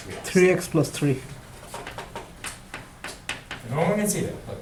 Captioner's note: voiceover